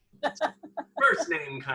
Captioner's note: laughs